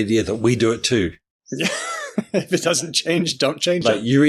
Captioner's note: laughs